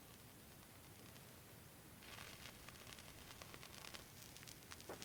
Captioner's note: flame sizzling